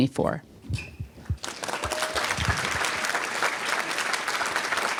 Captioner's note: applause